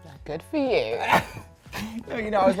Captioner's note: laughing